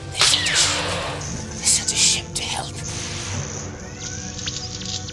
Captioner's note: explosion